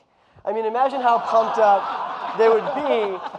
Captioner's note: audience laughing